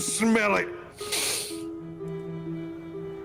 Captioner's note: deep sniff